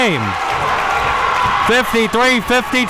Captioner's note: audience cheering and applauding